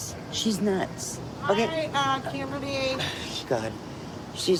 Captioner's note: scoffs